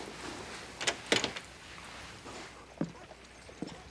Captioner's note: door opens